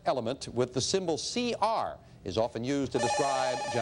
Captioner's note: beeping